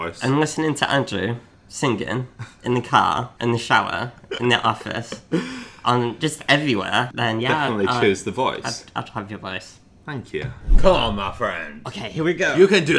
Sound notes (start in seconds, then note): 4.2 laughs